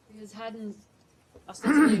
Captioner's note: coughing